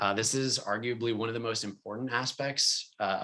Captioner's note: none